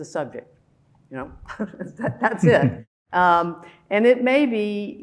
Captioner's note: laughing